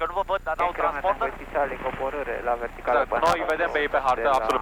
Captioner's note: radio chatter